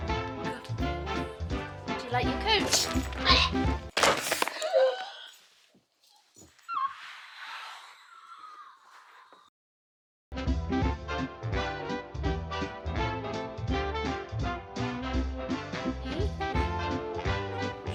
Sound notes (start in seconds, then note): 3.8 massive crack; 4.5 yelps; 4.5 gasps; 5.2 music Stops